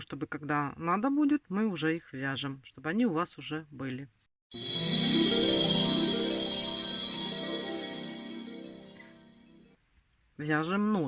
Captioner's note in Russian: колокольчик